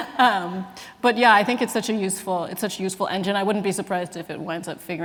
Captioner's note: laughs